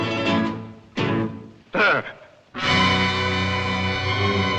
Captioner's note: gasps